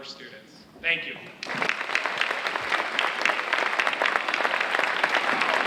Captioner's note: audience applauding